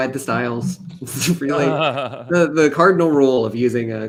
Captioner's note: chuckles